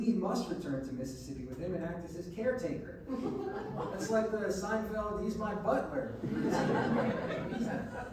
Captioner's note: laughs